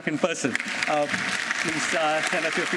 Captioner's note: applause